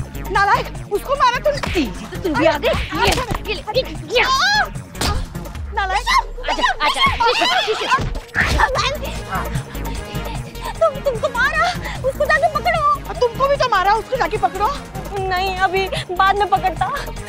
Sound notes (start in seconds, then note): 4.0 groaning; 8.3 screaming